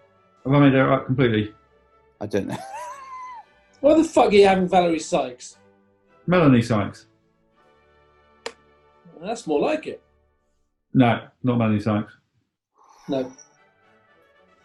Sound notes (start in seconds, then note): 2.4 chuckling; 12.8 exhales